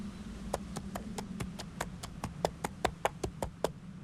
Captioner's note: footsteps